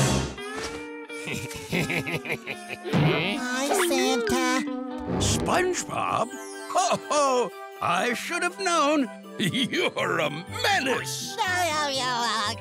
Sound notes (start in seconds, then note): 1.2 evil laughing; 10.6 laughing